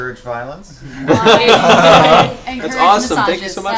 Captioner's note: laughter